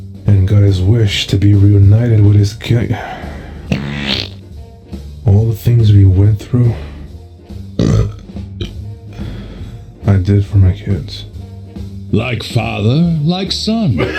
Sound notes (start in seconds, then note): 3.6 spring mouth fart noise; 7.7 Spring burps; 7.8 brief burp